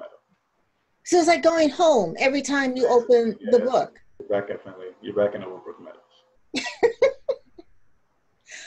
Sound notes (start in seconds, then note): 6.5 laughter